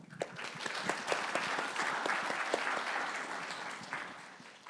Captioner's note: audience clapping